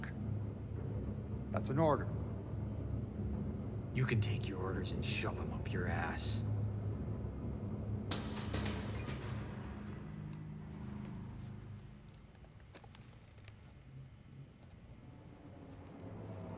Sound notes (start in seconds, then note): 8.1 glass shatters